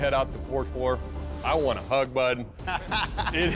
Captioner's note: laughs